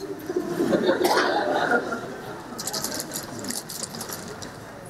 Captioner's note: audience laughs